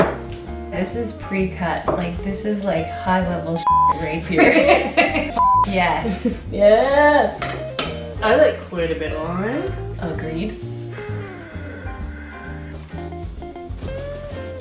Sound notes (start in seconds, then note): 4.3 laughs; 11.2 light music